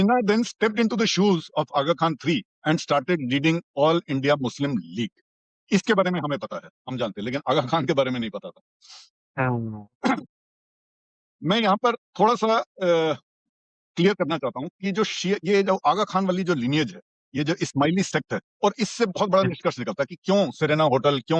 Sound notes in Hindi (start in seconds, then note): 9.1 नाक से की जाने वाली आवाज़